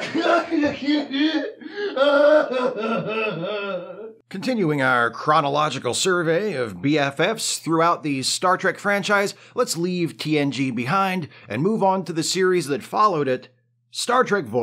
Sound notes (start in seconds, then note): 4.2 sobs off-camera